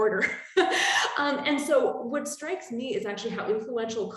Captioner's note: chuckling